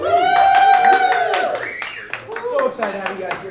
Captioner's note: cheering